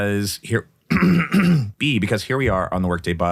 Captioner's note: clearing throat